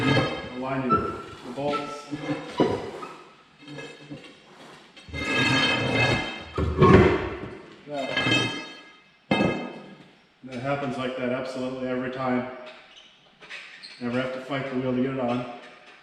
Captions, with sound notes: (tire squeaking) the bolts (metal stick scraping) (tire bangs) there. That happens like that absolutely every time. Never have to fight the wheel to get it on.